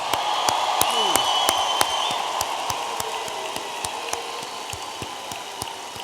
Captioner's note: audience applauding and cheering